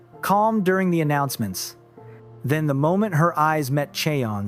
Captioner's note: none